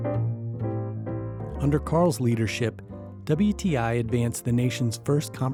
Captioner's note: voiceover